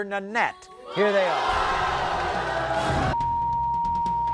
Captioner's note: crowd boos